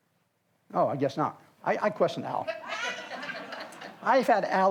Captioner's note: audience laughs